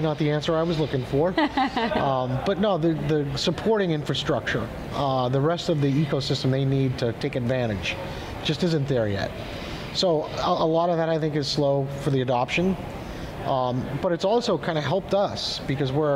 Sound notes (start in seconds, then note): 1.4 laughs